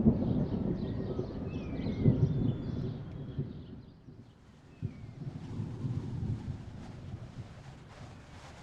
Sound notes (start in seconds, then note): 0.0 birds chirping; 0.0 thunder rumbles; 4.2 wind howling